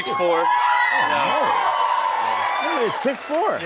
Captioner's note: cheers and applause